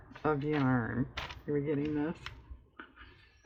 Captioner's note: laughs